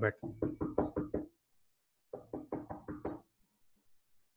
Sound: knocking sound

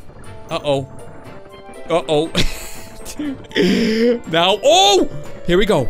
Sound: laughs

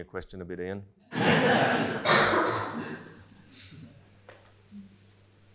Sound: attendees laughing

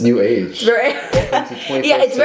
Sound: chuckles

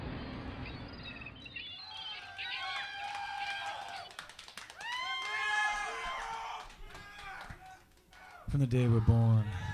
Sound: cheering fades in

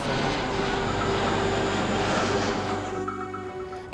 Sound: sound of jet engines

